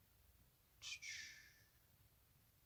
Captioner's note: makes cute noises